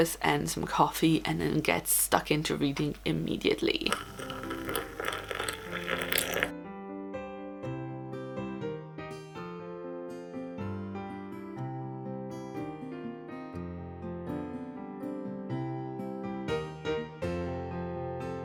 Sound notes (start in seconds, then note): 6.5 coffee pouring